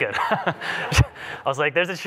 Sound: laughter

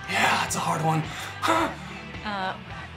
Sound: gasps

